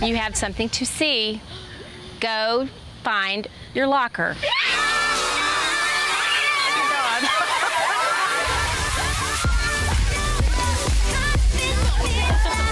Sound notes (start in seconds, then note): 4.4 screaming; 6.2 laughs; 9.9 upbeat music